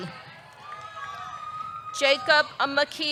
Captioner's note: audience cheering